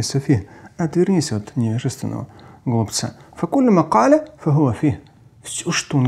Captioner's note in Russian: Говорит на арабском; говорит на арабском